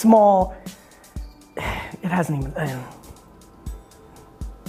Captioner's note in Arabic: تتنهد